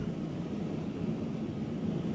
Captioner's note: burner hissing